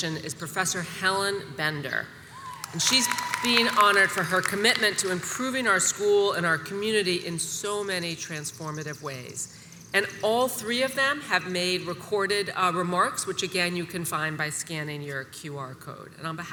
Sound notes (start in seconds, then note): 2.3 audience cheers and applauds